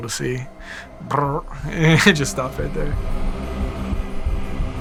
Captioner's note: imitates gunfire, laughing; dramatic music